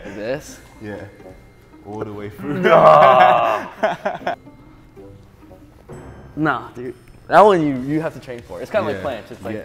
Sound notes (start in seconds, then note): 1.8 playful music; 2.4 laughs